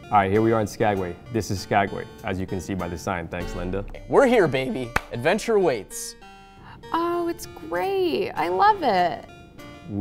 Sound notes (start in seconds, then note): 4.9 claps